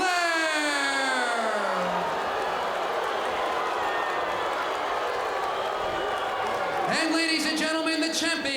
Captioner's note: crowd cheering